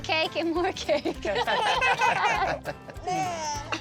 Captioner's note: everybody laughs